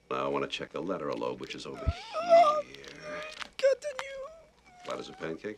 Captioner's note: Seymour groaning